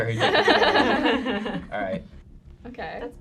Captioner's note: group laughing